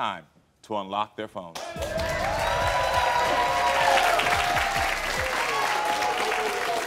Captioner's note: audience applauding and cheering